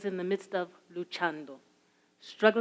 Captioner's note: speaks in a foreign language